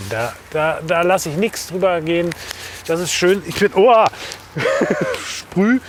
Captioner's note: laughs